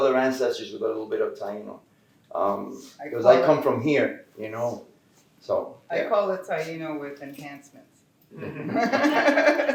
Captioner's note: laughter